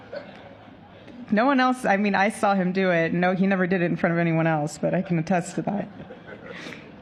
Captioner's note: laughter